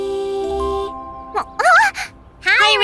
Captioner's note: gasps